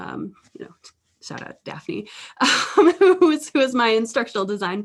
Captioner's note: laughter